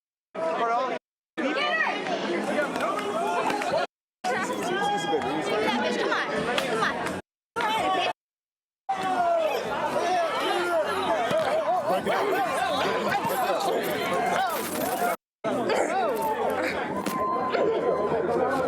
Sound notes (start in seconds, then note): 4.2 crowd talking; 10.7 crowd talking